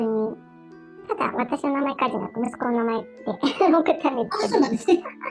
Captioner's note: laughs